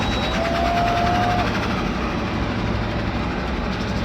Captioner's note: crowd cheers